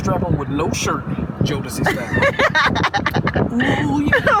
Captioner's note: Emily laughs; laughs